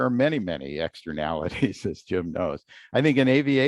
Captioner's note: laughter